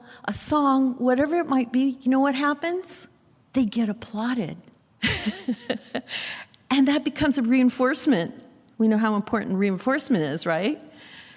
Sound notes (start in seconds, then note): 5.1 laughs